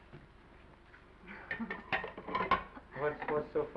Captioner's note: Esther chuckles; chuckles